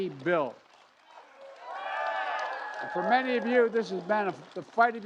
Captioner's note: cheers and applause